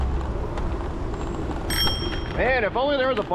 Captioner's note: bike bell